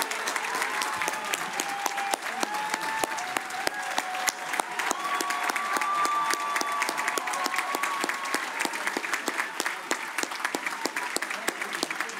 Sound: cheers and applause

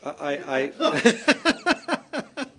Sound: laughter

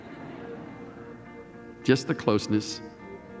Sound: laughter

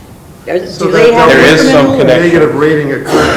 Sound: crowd chattering

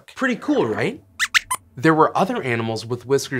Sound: squeaks squeaks

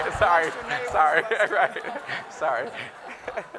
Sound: laughing

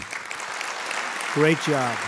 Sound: audience applauding

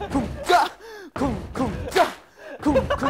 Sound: thump!

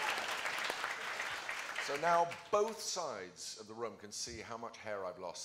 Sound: applause

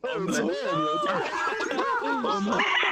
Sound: sadistic laughter

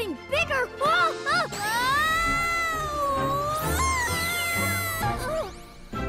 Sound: Pinkfong screaming

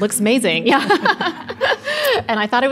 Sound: laughing

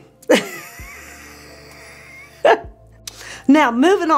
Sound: presenter laughing

